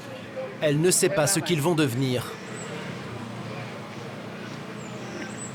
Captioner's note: French spoken audio